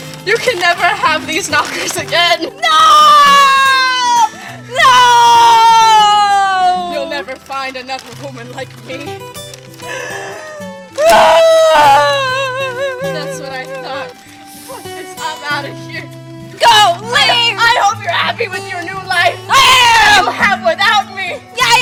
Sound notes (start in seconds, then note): 9.8 deep sigh; 9.9 crying